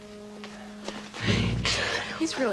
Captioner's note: laughing